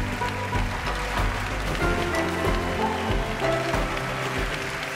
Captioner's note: cheerful music; cheers and applause